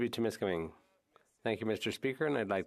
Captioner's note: speaking French